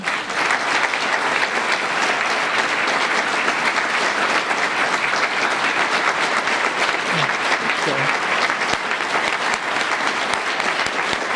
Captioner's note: applause